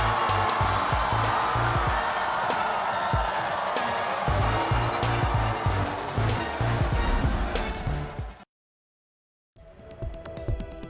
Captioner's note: cheers